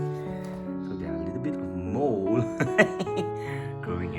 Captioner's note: evil Laughter